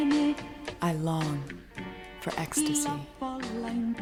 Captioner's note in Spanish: Voz en off